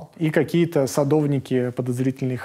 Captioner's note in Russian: none